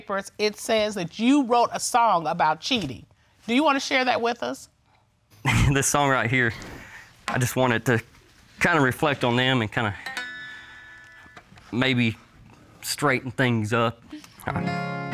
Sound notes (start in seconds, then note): 5.4 laughs; 10.0 plucks guitar